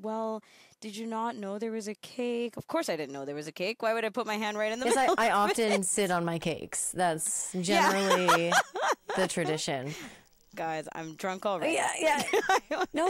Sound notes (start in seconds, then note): 7.7 laughing